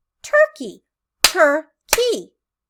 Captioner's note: clapping